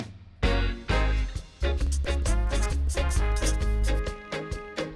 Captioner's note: upbeat music; marker scratching